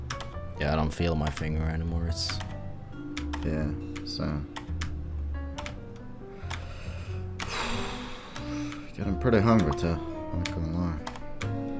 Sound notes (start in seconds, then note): 6.4 sighs